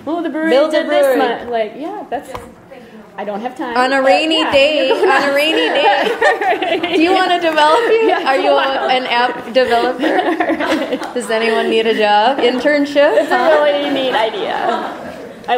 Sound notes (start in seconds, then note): 0.0 voiceover; 3.9 voiceover; 6.4 laughter; 13.6 voiceover